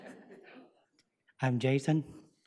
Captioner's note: audience laughs; chuckles